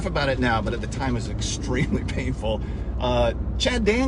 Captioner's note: laughs